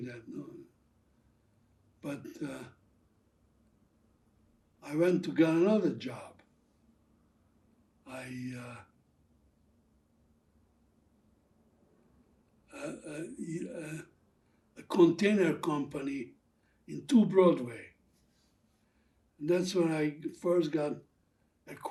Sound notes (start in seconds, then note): 8.6 pauses 6 seconds